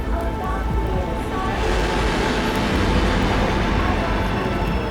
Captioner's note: plane roaring